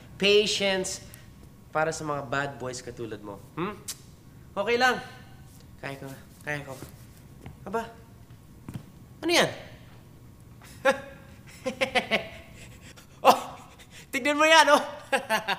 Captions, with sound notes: patience for bad boys like you. Hmm? It's okay. I can handle this, I can. Hey. What's that? [laughing] Oh, look at that.